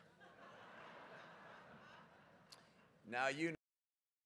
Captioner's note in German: Gelächter